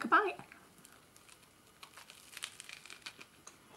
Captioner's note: crunching toast sounds